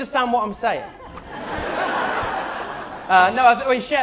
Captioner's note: laughter